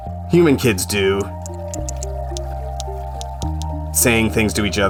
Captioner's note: whale clicking